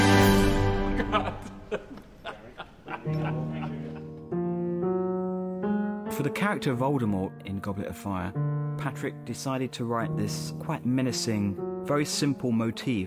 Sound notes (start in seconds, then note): 0.9 laughing